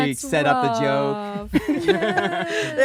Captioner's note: laughing